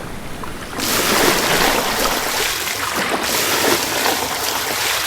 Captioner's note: sound of lapping waves